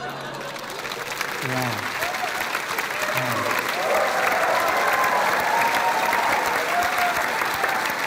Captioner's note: applause